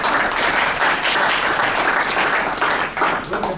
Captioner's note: applause